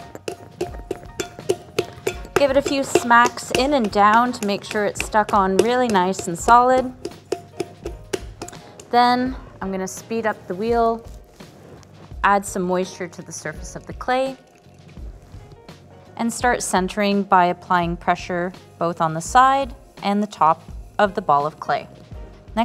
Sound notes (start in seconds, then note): 0.1 hands patting; 7.6 hands patting